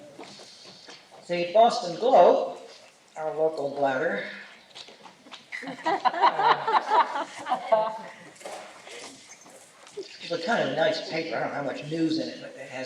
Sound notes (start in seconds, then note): 5.5 laughter